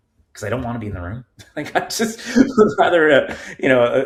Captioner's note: chuckling